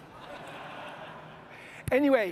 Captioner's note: audience laughing